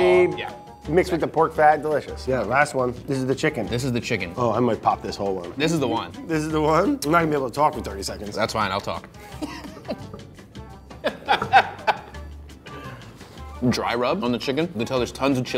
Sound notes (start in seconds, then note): 9.3 both laugh; 12.4 energetic music